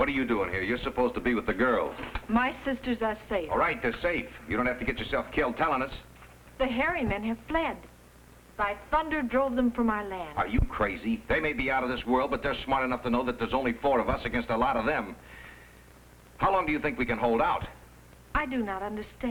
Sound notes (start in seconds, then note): none